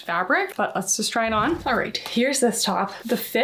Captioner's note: graphic whooshing